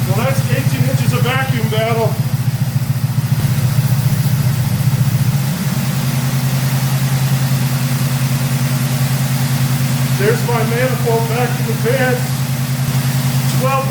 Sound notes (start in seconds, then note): 2.1 engine idling; 12.4 engine idles faster